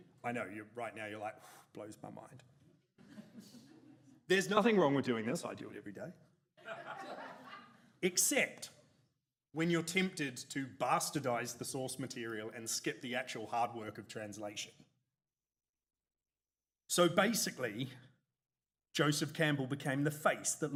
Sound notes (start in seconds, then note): 3.0 audience snickers; 6.8 audience chortles